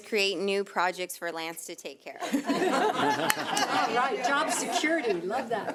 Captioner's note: audience laughs